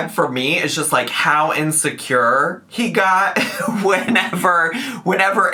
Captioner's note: laughs